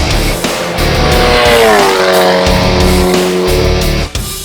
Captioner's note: engine roars; hard rock music; hard rock music continues